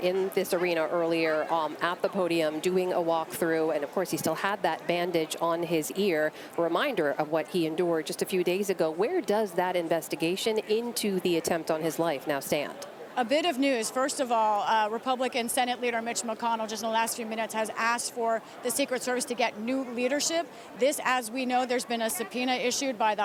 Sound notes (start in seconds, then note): none